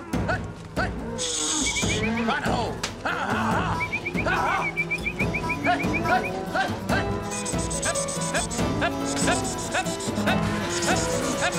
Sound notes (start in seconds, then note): 3.7 whistling; 6.8 calling cattle